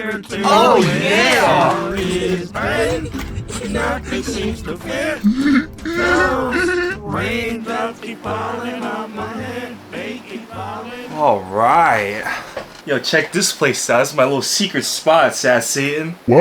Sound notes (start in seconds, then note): 2.0 accessiblefunky giggling; 5.2 Sad Satan giggling